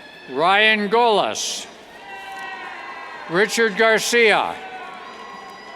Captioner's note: cheers